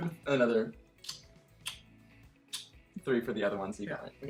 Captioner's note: kissing